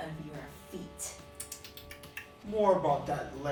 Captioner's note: tsk tsk tsk